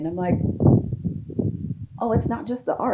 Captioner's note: wind blowing